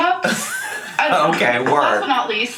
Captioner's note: laughing